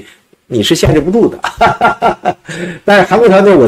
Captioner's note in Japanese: ハハハ